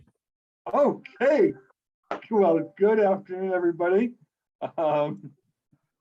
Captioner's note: chuckles